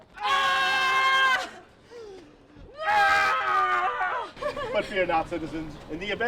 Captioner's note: screaming